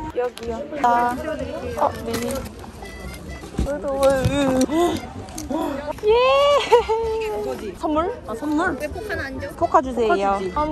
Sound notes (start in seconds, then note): 4.5 the breath of an animal